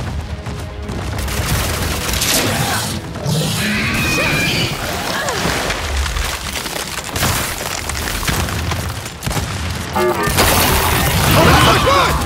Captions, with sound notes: [gunshots] [gunshots] Oh, my God!